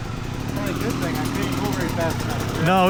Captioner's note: engine revving